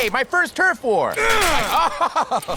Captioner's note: grunting; laughing